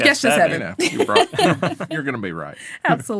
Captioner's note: all laughing